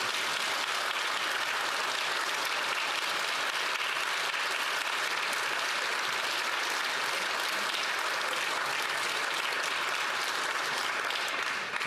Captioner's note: some Applause